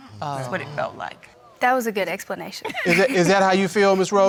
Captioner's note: laughs